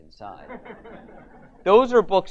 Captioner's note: audience laughs